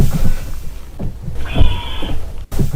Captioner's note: weird scream